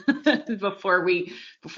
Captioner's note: laughs loudly